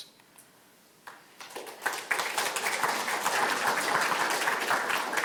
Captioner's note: audience applauding